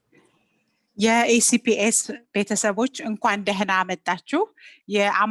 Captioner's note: woman speaking in Amharic